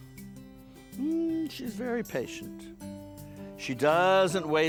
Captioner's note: hums